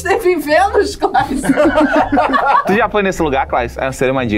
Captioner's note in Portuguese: risadas